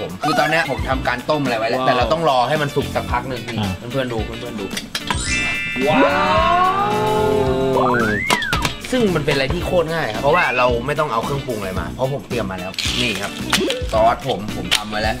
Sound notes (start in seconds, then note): 8.2 metal clanking